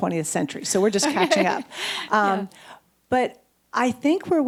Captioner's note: chuckles